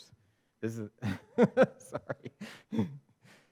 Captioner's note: laughs